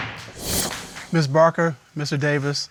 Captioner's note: hammer hit